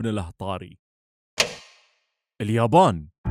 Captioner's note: light switch